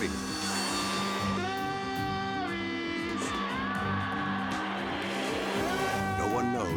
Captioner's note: announcer shouts in Spanish; crowd cheering